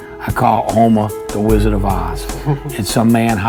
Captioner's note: interviewer chuckles